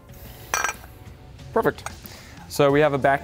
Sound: metal clanks

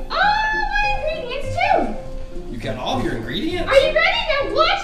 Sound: voiceover

